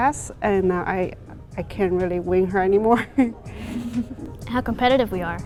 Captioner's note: laughs